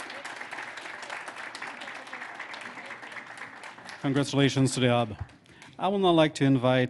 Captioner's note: applause